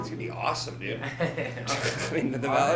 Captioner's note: laughing